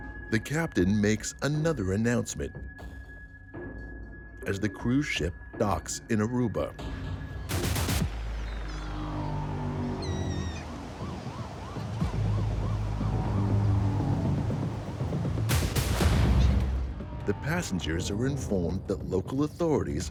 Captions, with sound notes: The captain makes another announcement, as the cruise ship docks in Aruba. (tense music) (sirens blaring) The passengers are informed that local authorities